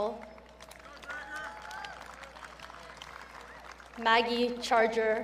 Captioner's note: audience cheering